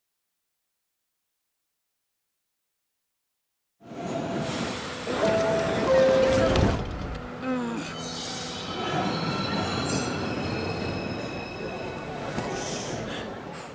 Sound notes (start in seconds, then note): 5.0 train clattering; 8.7 metal scraping